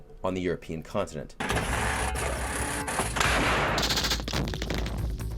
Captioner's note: guns blasting